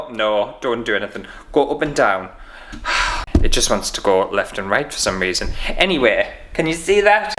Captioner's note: sighs